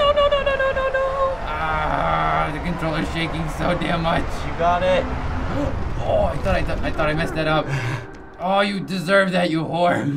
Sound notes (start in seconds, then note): 5.3 gasping; 7.7 chuckling